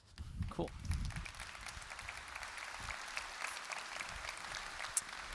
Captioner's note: applause